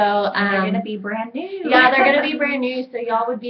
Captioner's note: laughs